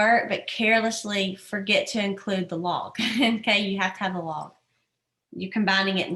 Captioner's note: laughter